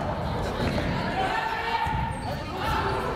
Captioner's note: yelling